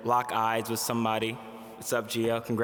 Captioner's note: none